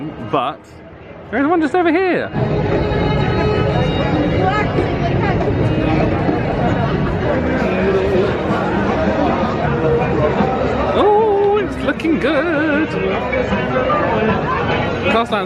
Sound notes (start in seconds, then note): 3.0 people chattering